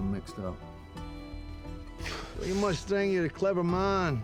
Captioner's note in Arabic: زفير; لكنة اسكتلندية